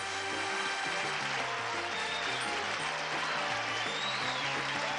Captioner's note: applause